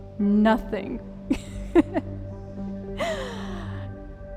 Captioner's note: laugh